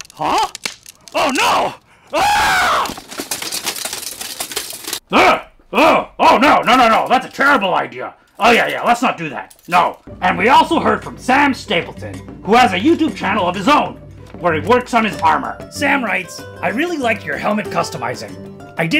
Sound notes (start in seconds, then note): 0.0 crunch; 2.1 screams